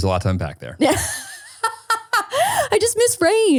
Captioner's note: laughing